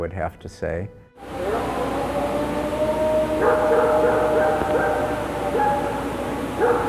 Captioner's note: dogs barking; creature howling